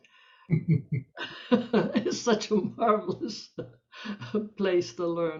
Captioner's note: laughing